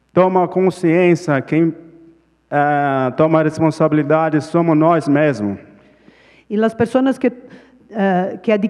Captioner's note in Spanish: Ponente habla en portugués